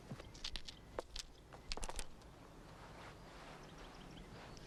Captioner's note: nuggets rattling